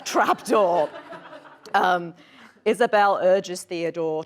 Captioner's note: audience laughs